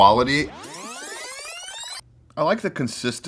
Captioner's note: flashback echoes